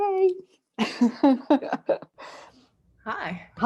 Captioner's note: laughter